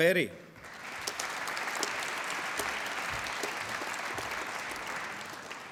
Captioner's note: applause